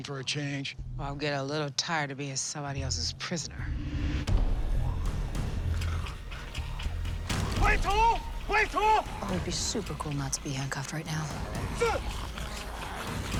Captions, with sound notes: I'm getting a little tired of being somebody else's prisoner. [snarling] [shouting in mandarin] It would be super cool not to be handcuffed right now.